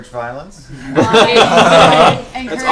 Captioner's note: laughter